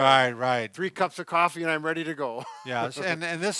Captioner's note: laughs